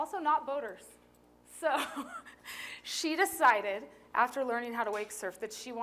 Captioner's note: laughter